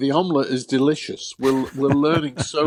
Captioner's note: laughs